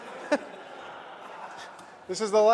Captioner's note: laughter